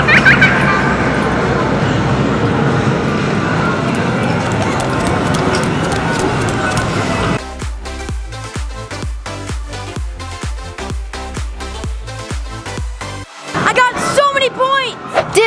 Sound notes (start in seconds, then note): 3.8 running footsteps; 7.7 upbeat music